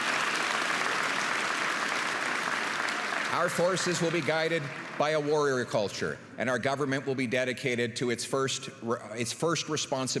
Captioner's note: applause